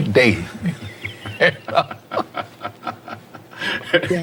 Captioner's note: laughing